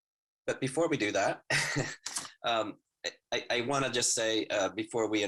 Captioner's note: laughs